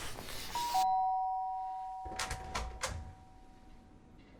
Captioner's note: doorbell chimes